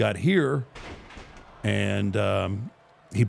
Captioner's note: bodies thud